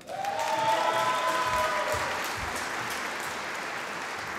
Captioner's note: applause